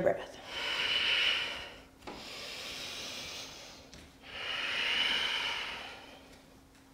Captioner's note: heavy breathing